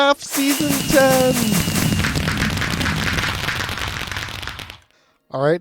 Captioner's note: fireworks